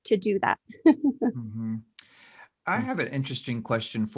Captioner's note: laughs